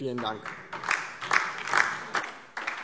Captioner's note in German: Beifall DIE LINKE